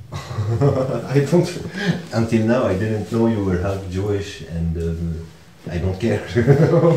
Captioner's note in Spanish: Ríe